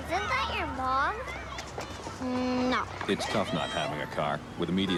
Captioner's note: none